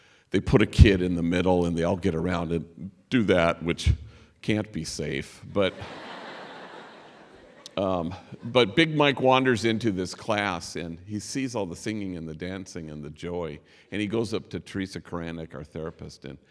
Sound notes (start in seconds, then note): 5.6 laughter